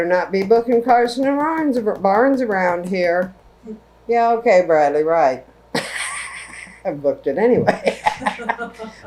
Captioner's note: laughter